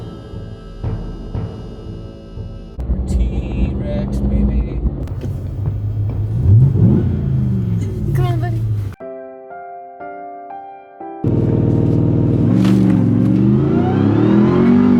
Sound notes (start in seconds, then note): 0.0 suspenseful music; 6.2 TRX engine revving; 8.9 gentle music; 11.2 car engine revving